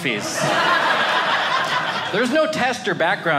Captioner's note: audience laughing